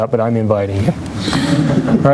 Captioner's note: laughter